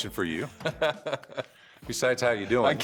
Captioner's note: laughs